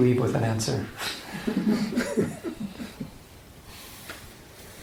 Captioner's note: chuckling